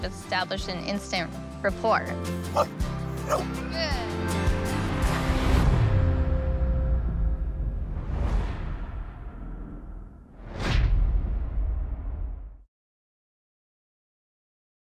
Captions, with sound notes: established an instant rapport. [BARKING] Good!